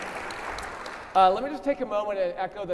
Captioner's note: audience applauding